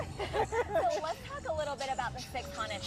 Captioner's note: laughing